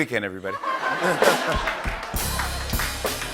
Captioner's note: laughter